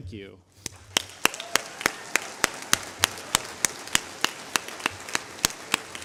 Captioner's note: applause